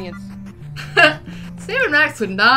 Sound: laugh

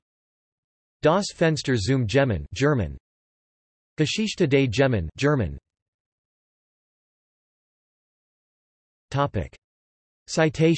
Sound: German

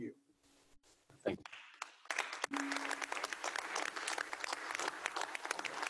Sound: applause

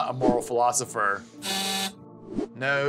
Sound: buzzer_

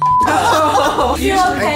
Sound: beep; laughing

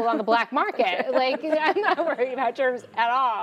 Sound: laughs

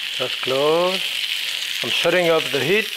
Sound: pan sizzling

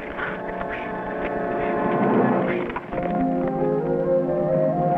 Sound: horses trotting; soft lively music

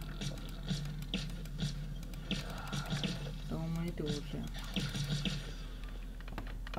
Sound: shots

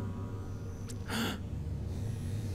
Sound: gasping

